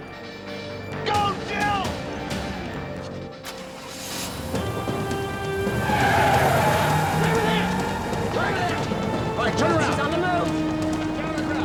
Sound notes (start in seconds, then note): 3.8 engine revving; 5.9 tires screeching